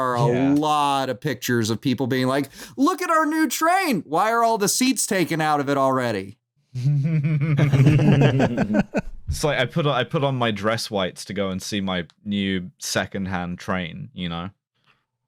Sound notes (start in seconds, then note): 2.6 excited; 6.8 laughter